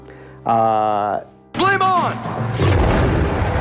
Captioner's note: voiceover